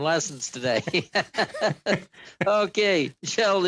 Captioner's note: laughter